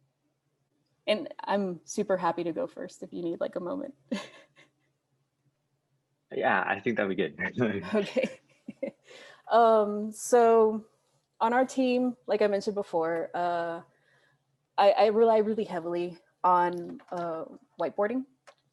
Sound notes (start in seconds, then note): 6.4 laughs